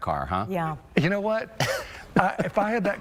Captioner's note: laughter